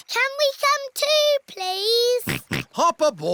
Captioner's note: snorts